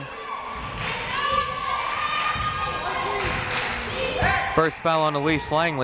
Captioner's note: crowd members chanting